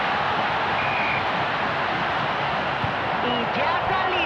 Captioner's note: whistle blows